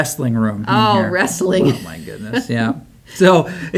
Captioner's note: laughs